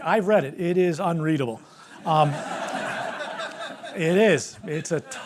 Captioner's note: laughter